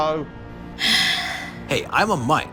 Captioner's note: sighs